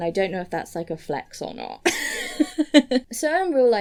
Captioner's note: laughs